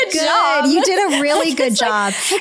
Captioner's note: laughs